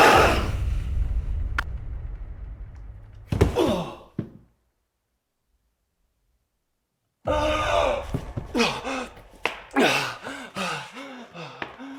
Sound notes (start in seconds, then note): 0.1 dramatic boom; 3.2 body thuds; 3.5 Jacob groans; 7.5 Jacob groans; 9.7 Jacob panting